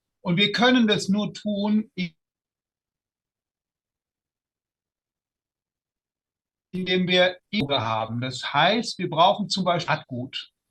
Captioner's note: short pause